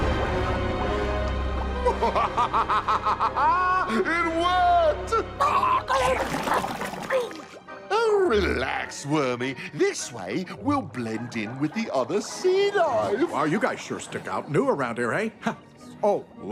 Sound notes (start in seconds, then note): 1.9 laughs; 5.9 gurgles